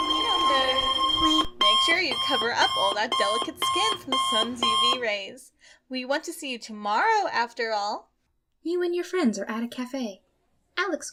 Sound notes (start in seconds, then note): 0.0 alarm Clock Blaring